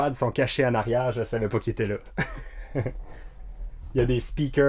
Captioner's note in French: Rire